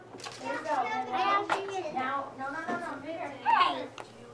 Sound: background chatter

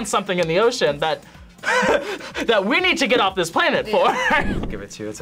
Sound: laughs

